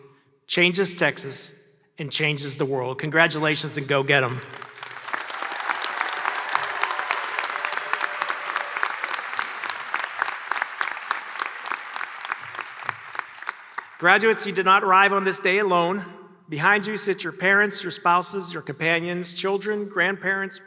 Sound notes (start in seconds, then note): 4.3 applause